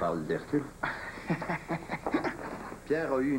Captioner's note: Petit rire